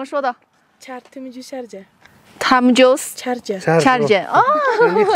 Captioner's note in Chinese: 塔吉克语